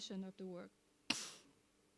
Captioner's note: sniffs